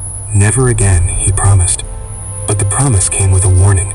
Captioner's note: soft, mysterious tone